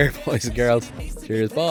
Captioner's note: laughing